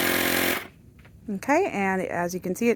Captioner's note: roar stops